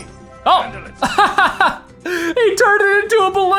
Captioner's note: laughs